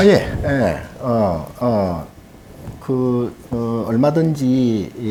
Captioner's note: speaking Korean